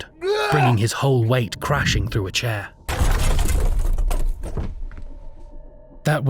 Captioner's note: crash